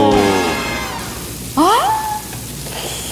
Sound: sizzling

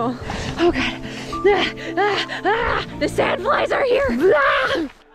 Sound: dramatic noises

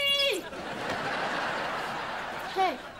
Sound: laughing

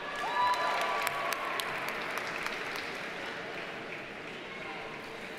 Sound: audience cheers and applauds

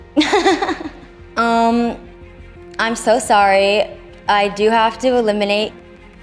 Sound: laughing

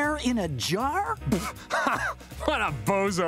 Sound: laughs nervously

